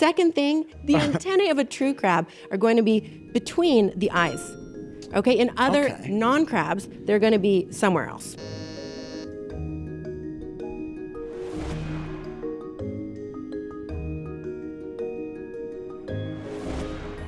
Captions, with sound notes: The second thing, the antennae of a true crab are going to be between the eyes. Okay, in other non crabs, they're gonna be somewhere else. (buzzer buzzes) (curious music)